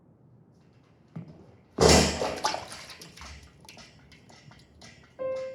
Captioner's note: water splashing; single piano note playing